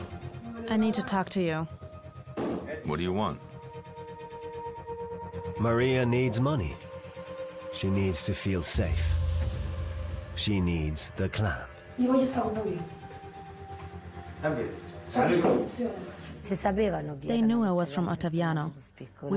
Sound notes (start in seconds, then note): 12.4 speaking in Italian